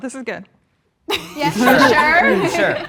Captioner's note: group laughing